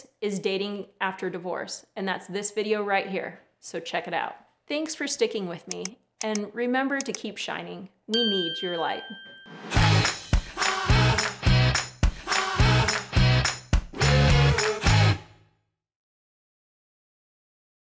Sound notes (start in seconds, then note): 5.6 mouse clicking; 8.1 bell ringing; 9.6 upbeat music